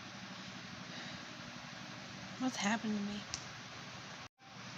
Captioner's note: exhales